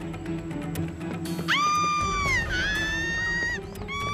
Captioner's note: screaming